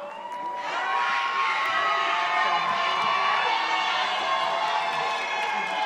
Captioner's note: members of the audience cheer